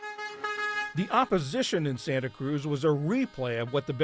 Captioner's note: voice-over